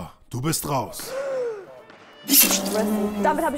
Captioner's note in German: Erschrockenes Atmen